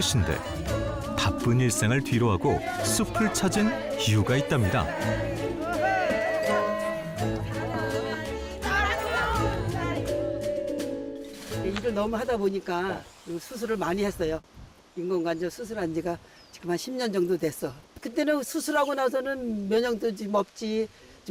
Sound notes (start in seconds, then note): 5.6 voiceover